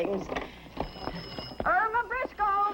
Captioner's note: phone rings